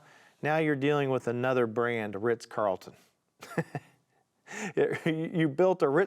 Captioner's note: chuckling